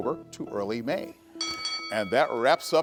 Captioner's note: bell ringing